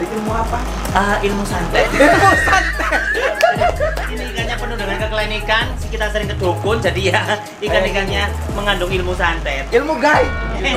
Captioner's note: laughing